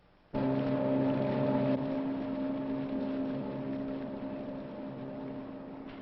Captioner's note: boat noises